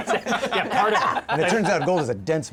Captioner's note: yelps